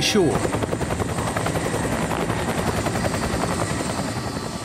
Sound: blades chopping

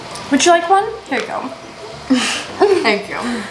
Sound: snickers

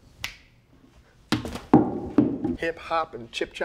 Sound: Peele snapping; trashcan thudding

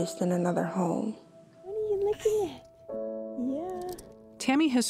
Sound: speaking "Motherese"

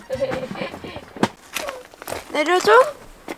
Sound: crying

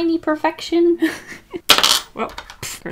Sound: crash

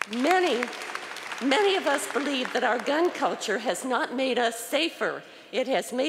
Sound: applause

